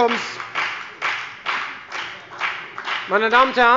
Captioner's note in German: Beifall bei der FDP